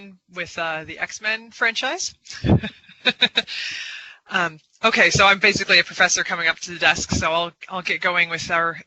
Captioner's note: laughter